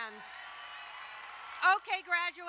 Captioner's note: crowd cheering and applauding